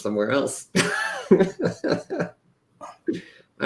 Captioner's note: laughter